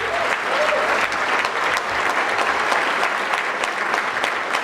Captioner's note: audience clapping